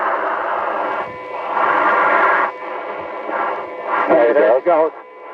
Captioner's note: alarm tone beeps